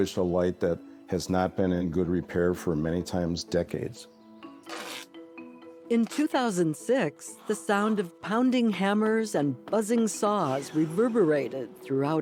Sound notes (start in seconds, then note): 4.6 ripping tape off